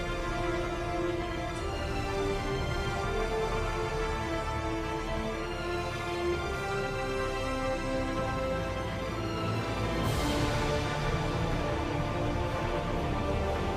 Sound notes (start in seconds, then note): none